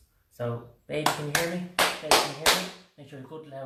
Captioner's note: claps